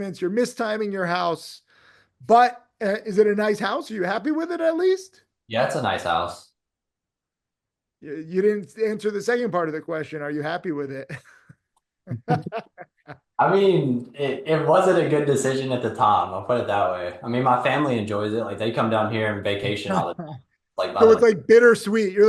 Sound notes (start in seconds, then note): 12.1 people laughing